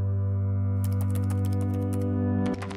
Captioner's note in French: clapotis de touches du clavier